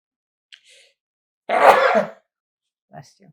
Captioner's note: sneezing